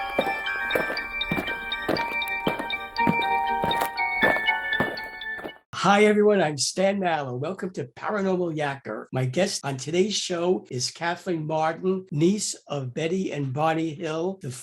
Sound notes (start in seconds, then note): 0.0 eerie music; 0.0 aliens marching